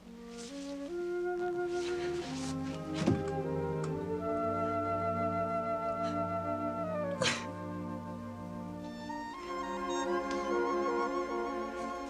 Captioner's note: door slams